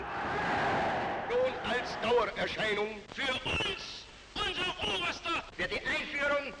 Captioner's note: speaking in foreign language